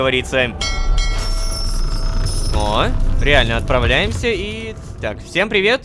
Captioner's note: ship's bell sounds